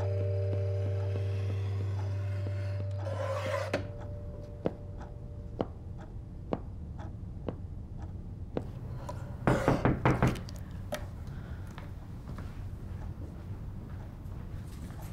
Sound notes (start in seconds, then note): 0.0 rhythmic tapping continues; 9.5 knocking on glass